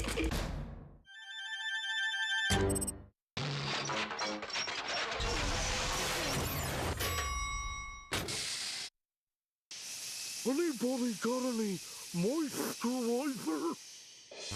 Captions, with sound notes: [whirring] [dinging] ANYBODY GOT ANY MOISTURIZER?